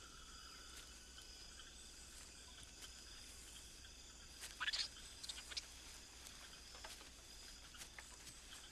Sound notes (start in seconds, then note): 4.6 monkey chattering